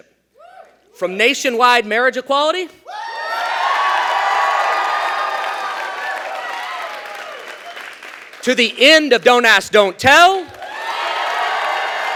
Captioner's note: cheers; cheering